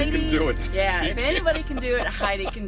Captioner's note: man laughs